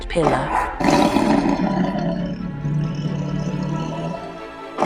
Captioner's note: sounds of Lion Roaring